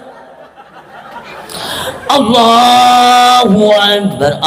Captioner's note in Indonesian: tertawa